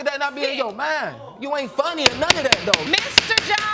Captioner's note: gavel pounding